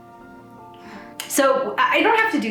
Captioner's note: sighs